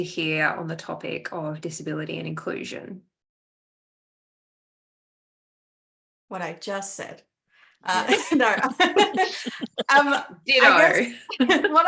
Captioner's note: laughs